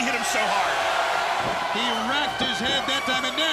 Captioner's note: crowd cheering